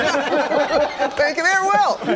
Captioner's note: laughter